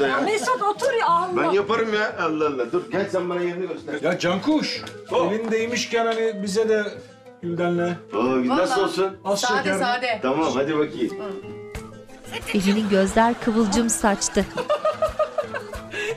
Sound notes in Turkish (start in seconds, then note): 12.2 Papağan ses; 14.2 Gülme sesi